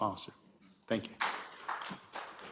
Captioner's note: applause